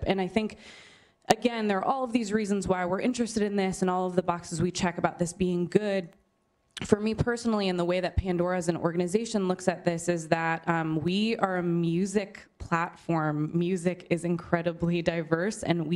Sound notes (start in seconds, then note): none